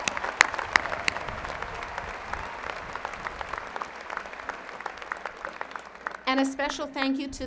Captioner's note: applause